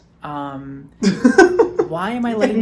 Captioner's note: laughs